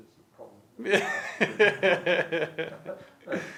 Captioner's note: laughs